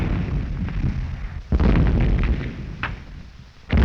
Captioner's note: explosions continue